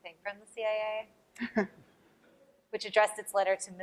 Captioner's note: laughter